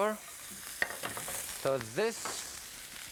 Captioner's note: skillet clatters